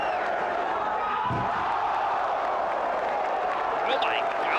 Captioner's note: crowd gasps